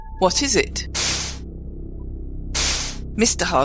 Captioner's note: doors swish